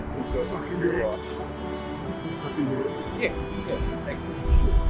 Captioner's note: faintly speaking